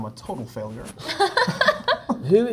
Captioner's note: Zendaya and Tom laugh